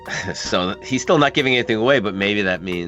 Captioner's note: laughs